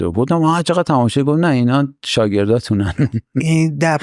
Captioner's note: laughs